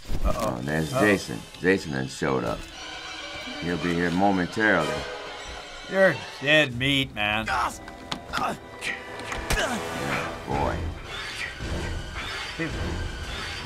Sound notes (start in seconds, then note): 0.0 static; 2.9 terrifying music; 9.3 axe hacking; 11.5 music building